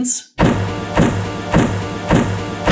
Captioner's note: thud; thud x2; thud x3; thud x4